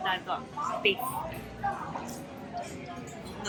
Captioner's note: patrons chattering noisily